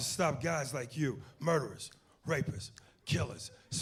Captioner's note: snapping fingers